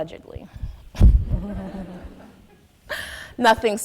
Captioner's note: audience laughing